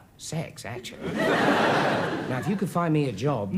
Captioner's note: audience laughs